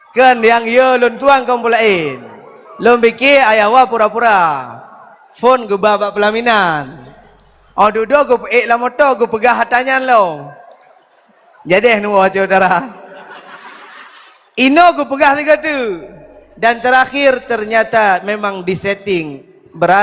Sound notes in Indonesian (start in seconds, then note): 13.0 tertawa